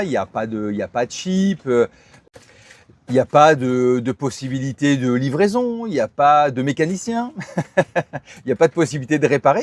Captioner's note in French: rires